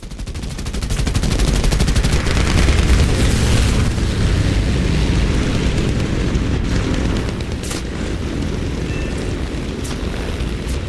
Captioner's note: aircraft Engines ,Gunfire, Flying Sounds